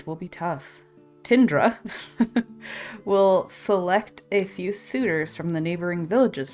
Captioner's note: laughs